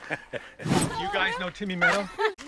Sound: laughing; laughs

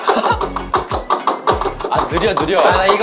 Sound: infinite tapping

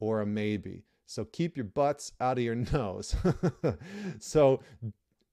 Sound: chuckles

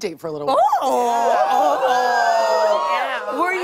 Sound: audience oohs

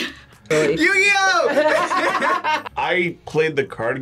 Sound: both laugh

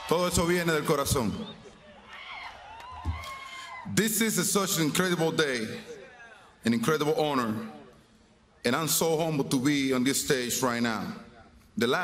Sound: speaking spanish

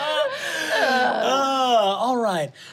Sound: laughing

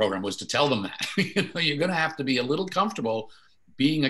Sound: laughing

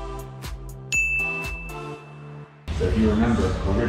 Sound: bell dings

